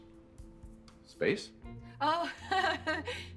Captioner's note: chuckles nervously